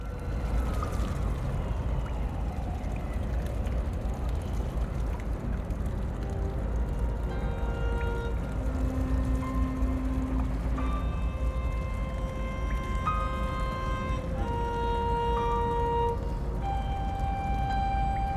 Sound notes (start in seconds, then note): 0.1 distant sirens; 3.3 water trickling